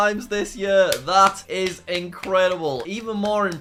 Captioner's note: clapping